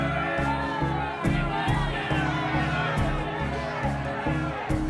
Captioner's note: yelling, clamoring